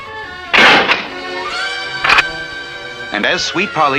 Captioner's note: door Closes & then locks